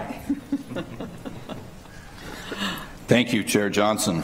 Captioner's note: laughter